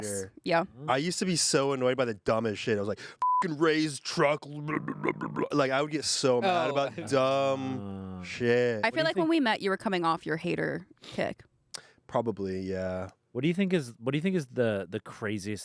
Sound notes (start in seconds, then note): 3.2 beep; 4.4 grumbles